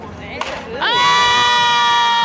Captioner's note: bat crack